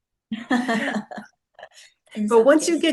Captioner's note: laughs